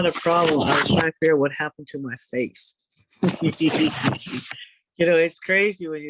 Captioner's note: laughs